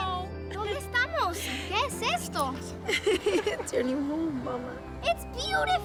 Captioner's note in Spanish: Risas